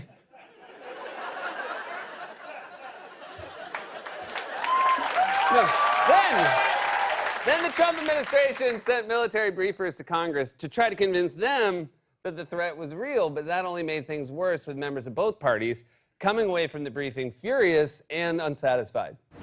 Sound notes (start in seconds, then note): 0.1 laughter; 3.6 cheers and applause